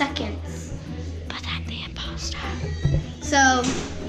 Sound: whispering

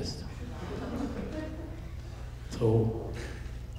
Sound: audience laughing

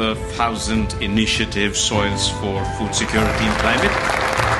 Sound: applause

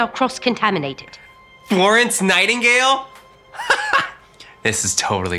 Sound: laughs

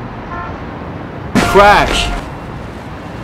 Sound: crash

